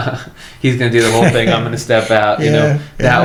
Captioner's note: laughs